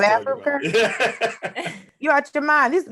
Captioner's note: Eric laughs